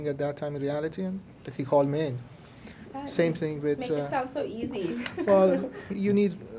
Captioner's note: laughs